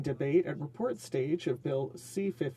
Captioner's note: speaking French